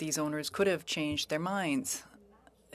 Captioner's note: speaking French